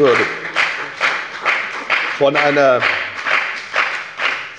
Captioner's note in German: Lebhafter Beifall bei der FDP